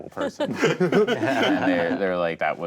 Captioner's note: group laughing